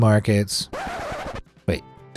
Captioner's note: record scratching